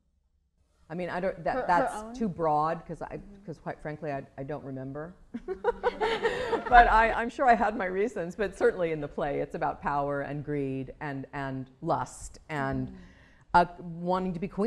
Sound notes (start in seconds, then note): 5.3 laughter